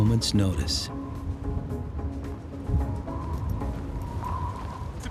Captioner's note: wind blowing